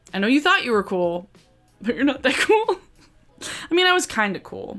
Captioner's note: laughs